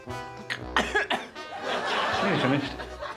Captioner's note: coughs